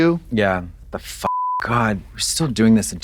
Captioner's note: beep